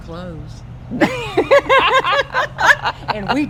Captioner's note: both laugh